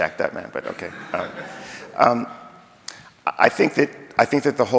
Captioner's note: audience laughing